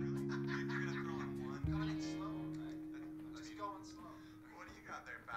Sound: TV chatter

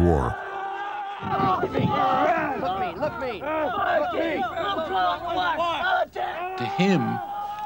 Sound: soldiers shouting

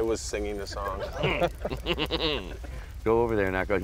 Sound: laughing

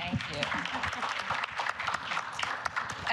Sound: applause

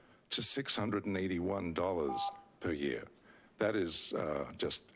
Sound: beeping

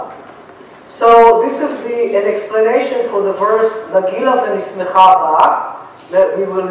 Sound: non-english

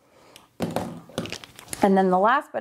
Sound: pen clattering

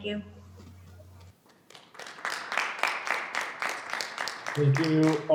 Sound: audience clapping

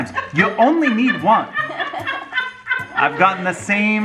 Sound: laughing

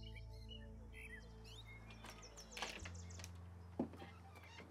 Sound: door creaks open

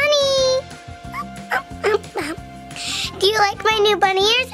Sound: squeaking

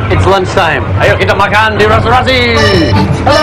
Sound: speaking indonesian

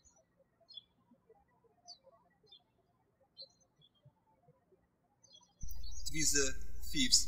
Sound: birds chirping

